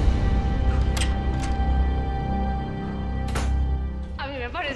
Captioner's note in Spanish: Ruido de la puerta